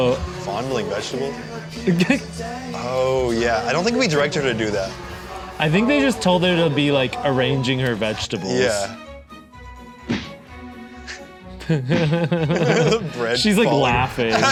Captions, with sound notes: - Oh. - Fondling vegetables? Oh yeah, I don't think we directed her to do that. - I think they just told her to be like arranging her vegetables. - Yeah. (bread thuds) The bread. - She's like laughing.